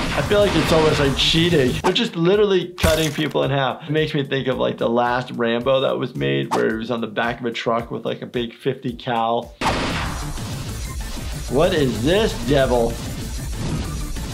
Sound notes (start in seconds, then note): 9.6 gun shooting; 10.8 active music